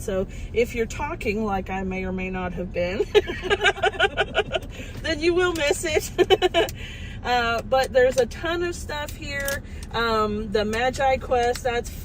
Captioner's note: more laughter